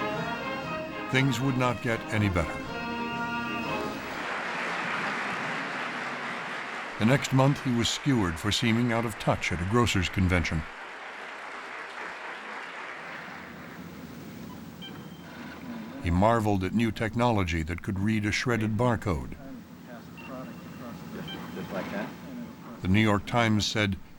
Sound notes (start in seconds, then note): 4.0 applause; 12.7 beep